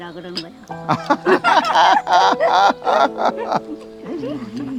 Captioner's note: both laughing